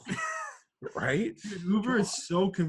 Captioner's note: laughs